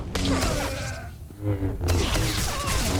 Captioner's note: gunshots